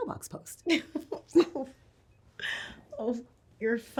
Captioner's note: both laughing